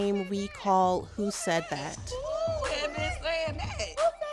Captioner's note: soundbite of tv show, "the real housewives of atlanta"